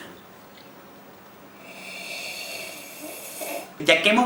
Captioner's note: sips loudly